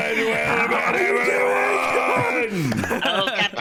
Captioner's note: pirate noises